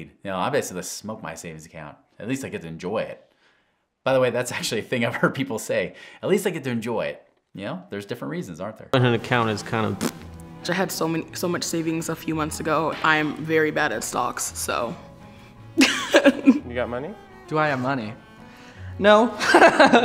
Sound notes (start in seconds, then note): 9.0 blows raspberry; 15.8 laughing